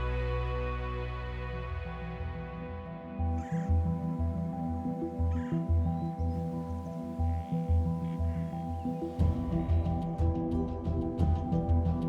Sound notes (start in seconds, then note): 3.3 birds chirping; 8.8 suspenseful percussive music